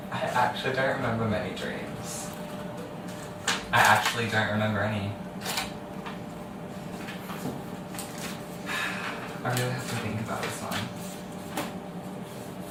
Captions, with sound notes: I actually don't remember many dreams, I actually don't remember any *sigh* I really have to think about this one